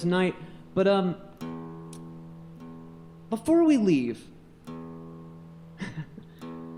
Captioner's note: laughs